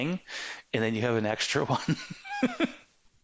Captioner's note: laughing